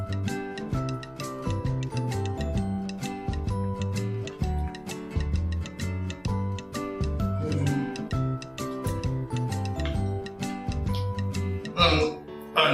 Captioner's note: disgusted Noises